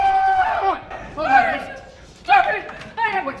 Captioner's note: group screaming